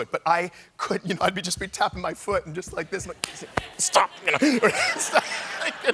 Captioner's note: laughter